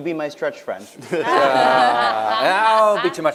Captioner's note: laughter